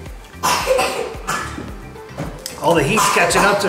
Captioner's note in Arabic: سعال